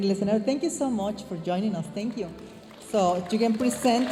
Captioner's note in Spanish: hablando en inglés